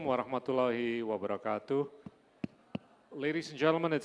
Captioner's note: speaking indonesian